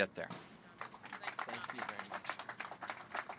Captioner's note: applause